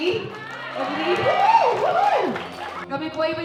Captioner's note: audience cheering